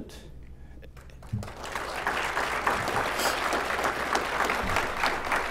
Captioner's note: applause